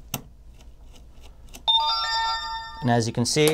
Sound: digital chiming

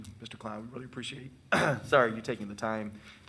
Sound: clears throat

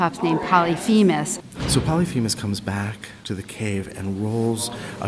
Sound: voiceover

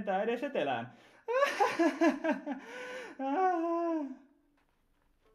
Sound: arrogant laughter

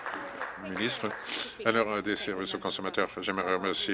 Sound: applause

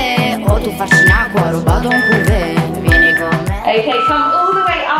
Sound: timer beeping

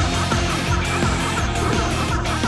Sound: burps

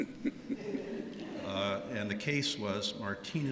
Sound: laughter

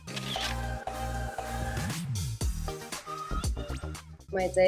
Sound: camera clicks

